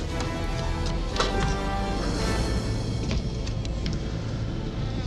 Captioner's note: latch clunks; door creaking